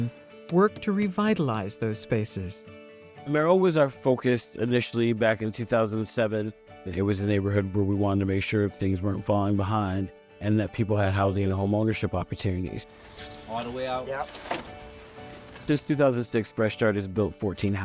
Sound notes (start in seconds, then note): 12.8 drilling